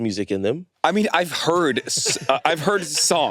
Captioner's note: laughs